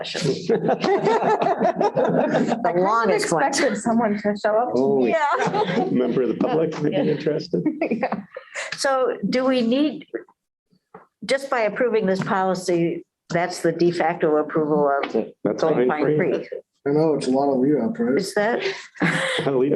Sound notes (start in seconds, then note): 0.2 laughter; 5.2 laughter; 7.5 laughter; 18.8 laughter